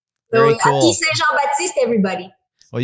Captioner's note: speaking in French